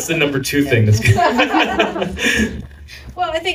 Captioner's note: laughter